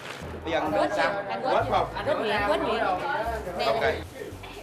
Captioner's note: chatter